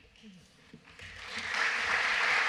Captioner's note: applause